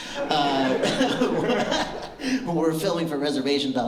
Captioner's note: laughter